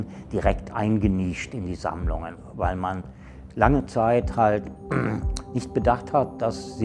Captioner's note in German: räuspern